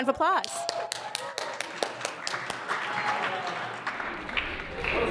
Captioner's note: audience applauds